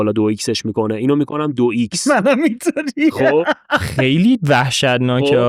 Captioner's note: laughs